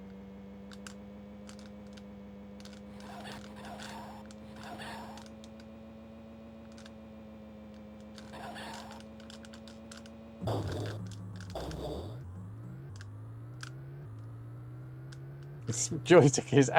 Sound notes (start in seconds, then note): 2.5 typing